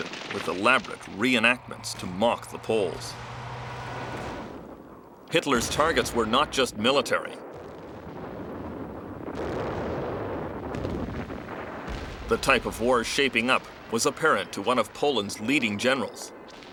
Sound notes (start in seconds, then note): 9.4 bombs explode